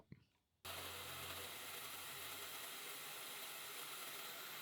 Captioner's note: milling machine whirring